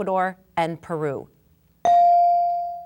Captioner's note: bell dinging